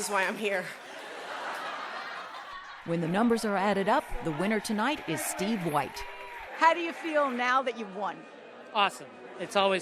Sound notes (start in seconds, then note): 0.8 laughter